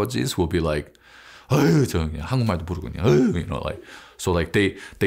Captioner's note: grumbles